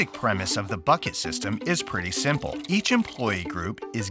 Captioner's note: water filling up